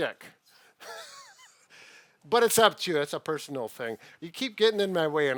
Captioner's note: laughs